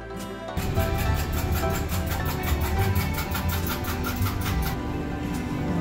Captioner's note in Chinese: 背景是打蛋聲